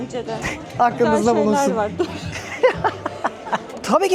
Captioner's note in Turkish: kahkaha